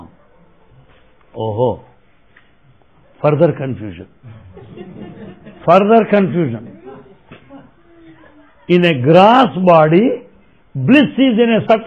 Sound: laughter

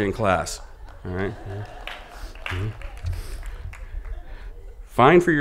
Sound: laughing

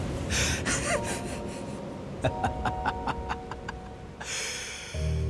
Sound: laughs

